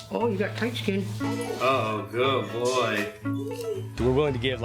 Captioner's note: dog whines